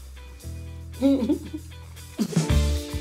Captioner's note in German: Lachen